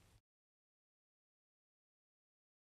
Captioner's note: silent scene